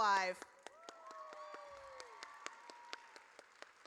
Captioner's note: audience cheers